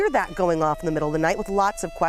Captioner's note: siren blaring